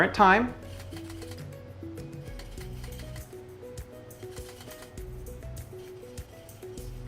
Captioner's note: dial rotating